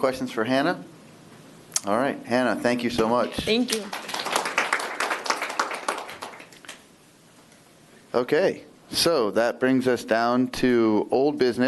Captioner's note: applause